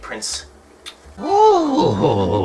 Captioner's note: kiss